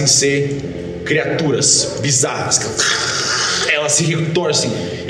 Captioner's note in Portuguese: grunhidos